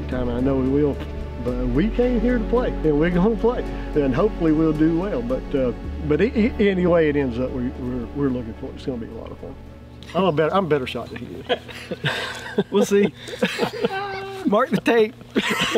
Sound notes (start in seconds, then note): 11.4 laughing